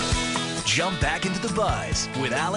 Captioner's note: voiceover